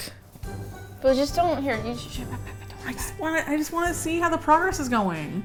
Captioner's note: whispers